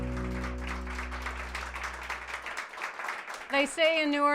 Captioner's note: bright acoustic music; audience applauds